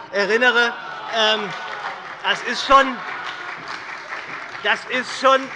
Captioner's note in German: Heiterkeit und Beifall bei der SPD und der FDP